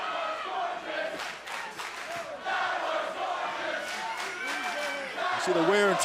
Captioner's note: fans chanting